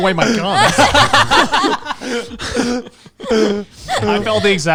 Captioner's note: all laughing